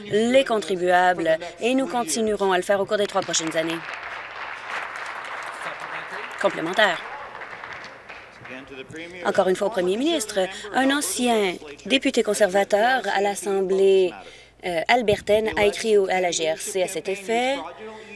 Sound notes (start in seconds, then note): 5.3 applause